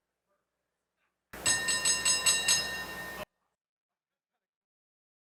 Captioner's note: bell ringing